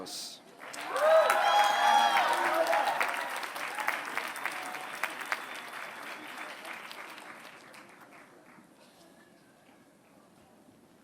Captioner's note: applause